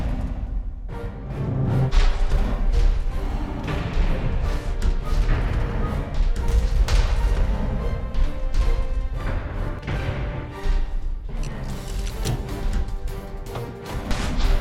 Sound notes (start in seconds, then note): none